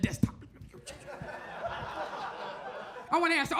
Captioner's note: audience laughs